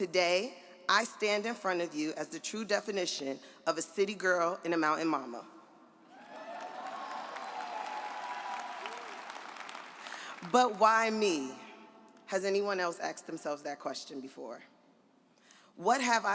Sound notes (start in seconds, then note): 6.2 audience applauds